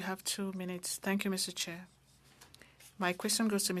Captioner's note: speaking French